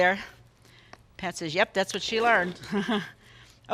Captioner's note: chuckles